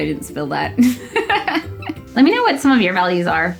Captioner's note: giggles